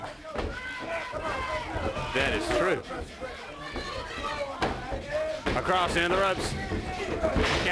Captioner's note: crowd chatter